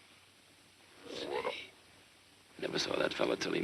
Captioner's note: frog croaks